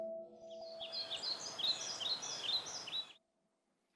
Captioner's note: birds chirp